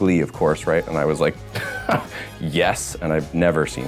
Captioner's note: laughs